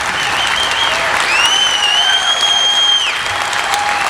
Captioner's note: audience applauding; audience cheering; audience whistling